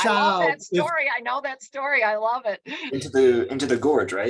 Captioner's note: chuckles